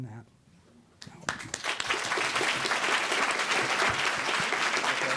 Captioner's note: audience applauding